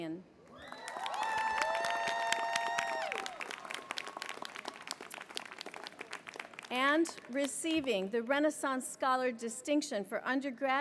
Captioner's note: applause